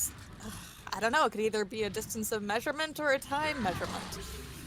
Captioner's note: sighs